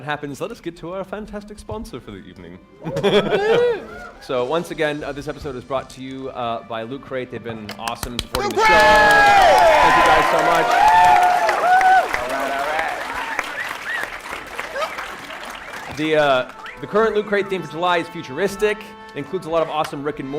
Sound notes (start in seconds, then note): 10.8 cheering